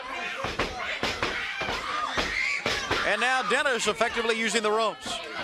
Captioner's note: crowd chatter